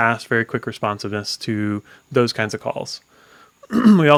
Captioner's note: coughs